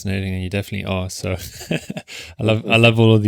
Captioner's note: laughing